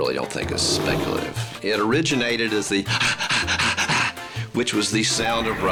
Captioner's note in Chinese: 喘氣聲